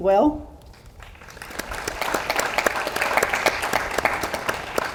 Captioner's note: audience applauds